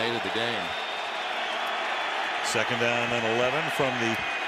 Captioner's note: crowd cheers